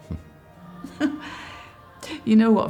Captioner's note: both chuckling